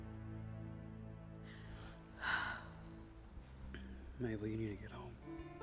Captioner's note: Mabel sighs